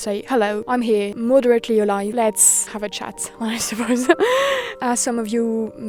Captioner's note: laughs